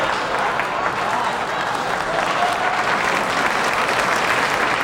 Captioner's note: audience clapping